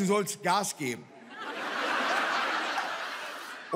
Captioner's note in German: Lachen